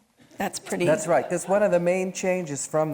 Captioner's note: audience laughing